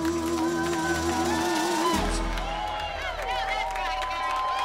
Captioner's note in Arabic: هتاف الجمهور